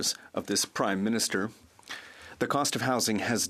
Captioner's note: speaking French